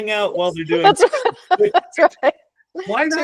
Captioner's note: laughing